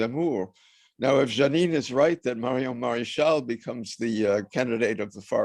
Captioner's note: french